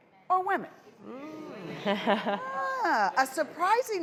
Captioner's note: audience chatters